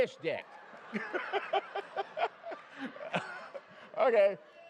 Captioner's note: laughter